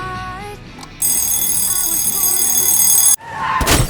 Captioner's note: bell ringing; wheels squealing, Breaking glass